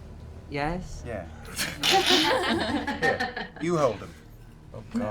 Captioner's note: laughter